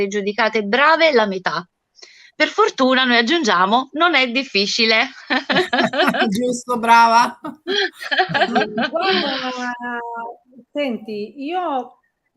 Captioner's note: Risate